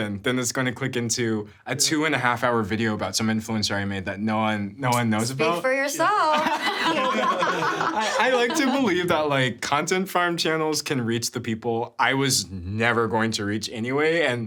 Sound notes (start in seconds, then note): 5.1 clicks tongue; 6.2 everyone laughing